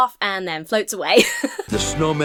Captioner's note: laughs